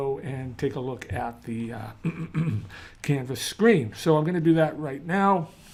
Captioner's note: cough, cough